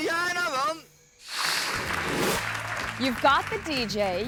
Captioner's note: camera person speaks in foreign language; screen swooshes; crowd applauds